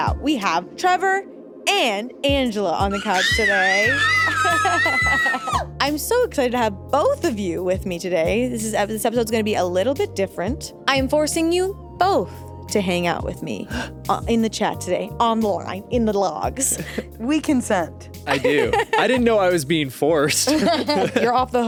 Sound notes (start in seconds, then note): 2.9 screaming; 3.0 laughs; 20.3 laugh